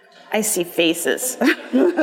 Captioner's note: laughing